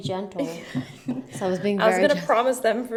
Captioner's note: laughs